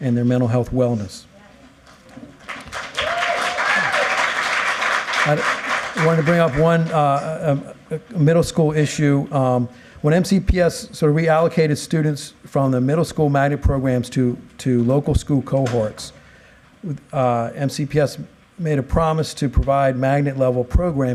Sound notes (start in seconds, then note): 6.1 applause